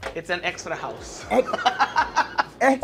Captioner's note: laughing